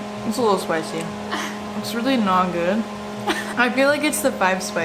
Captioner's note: laughs